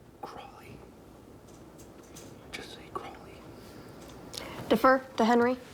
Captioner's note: whispers